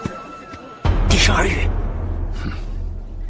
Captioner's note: murmurs under breath